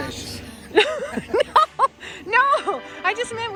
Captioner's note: laughs